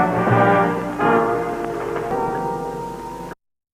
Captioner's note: wood creaking